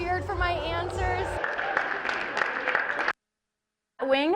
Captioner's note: audience applauding